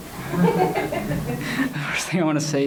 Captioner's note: laughs